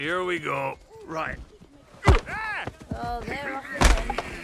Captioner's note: grunts; horns thud